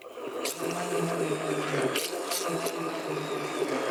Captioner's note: mixer whirring